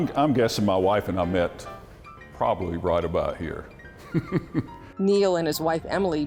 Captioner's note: laughs